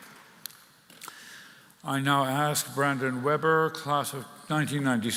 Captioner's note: applause